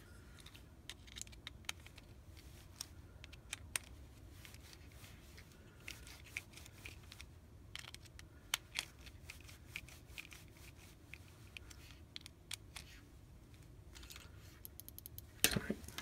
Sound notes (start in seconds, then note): 14.6 click click click